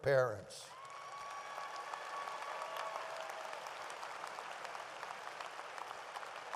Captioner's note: audience applauds and cheers